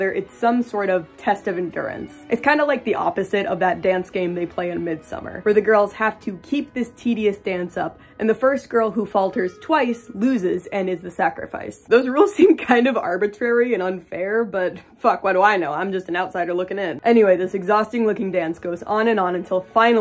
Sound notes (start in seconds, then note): 11.6 laughing